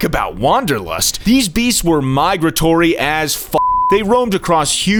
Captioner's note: beep